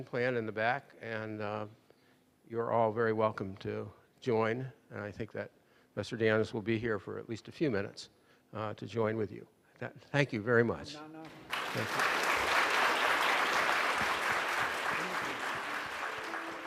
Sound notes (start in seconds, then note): 11.3 audience applauding